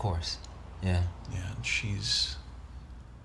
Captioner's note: sighs